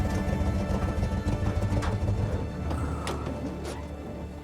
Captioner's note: engine turns off